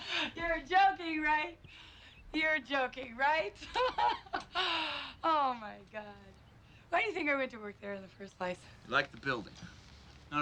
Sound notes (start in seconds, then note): 0.0 Ellyn laughs; 3.6 laughs